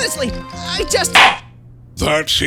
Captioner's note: gavel slams!